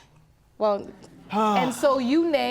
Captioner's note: sighs